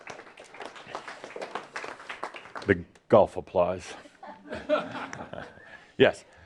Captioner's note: some light applause; laughs